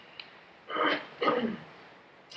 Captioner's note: clears throat